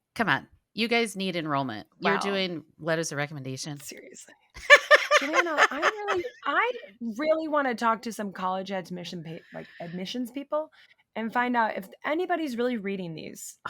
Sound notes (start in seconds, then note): 4.6 laughing